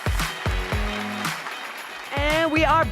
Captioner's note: audience applause